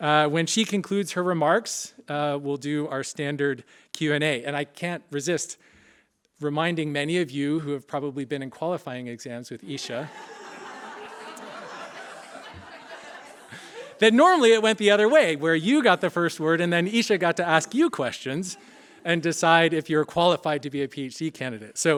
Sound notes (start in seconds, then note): 9.7 laughter